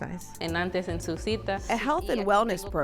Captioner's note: speaking in foreign language